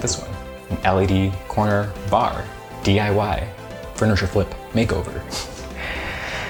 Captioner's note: laughing